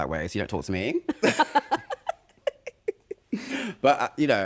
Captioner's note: laughter